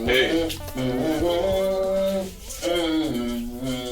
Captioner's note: humming continues